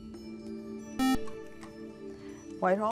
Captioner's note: beep